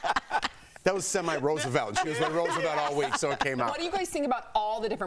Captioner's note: laughter